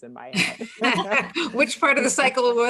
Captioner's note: all laughing